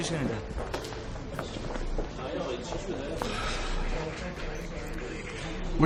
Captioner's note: indistinct chatter